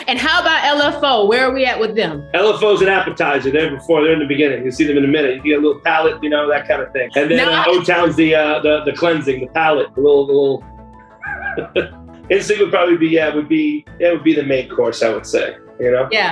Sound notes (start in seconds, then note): 7.1 laughs; 11.1 laughs